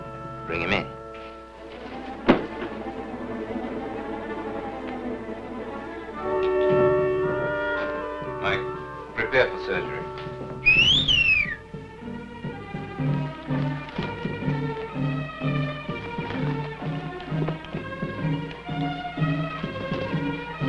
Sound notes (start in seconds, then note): 2.2 suspenseful music; 10.6 soldier whistles; 12.2 suspenseful music